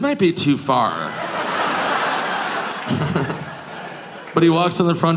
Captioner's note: audience laughing; Nick chuckles